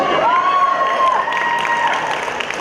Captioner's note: cheering